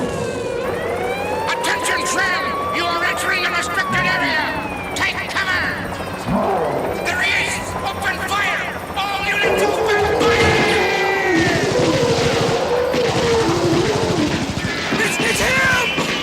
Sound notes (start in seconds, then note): 10.7 gunshots firing; 11.7 gorilla groaning